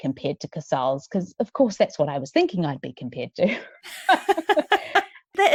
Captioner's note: laughs